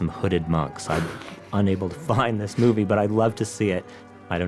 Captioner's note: laughs